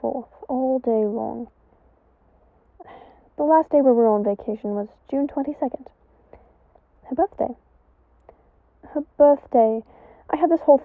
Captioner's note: sigh